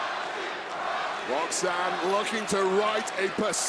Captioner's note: crowd chants